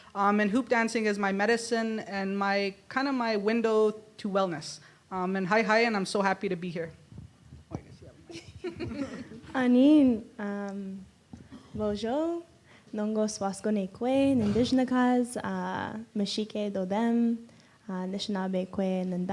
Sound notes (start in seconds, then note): 8.9 in Indigenous language